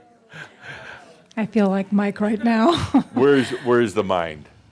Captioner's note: she chuckles